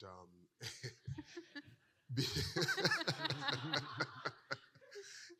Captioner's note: participants laughing